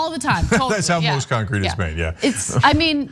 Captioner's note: laugh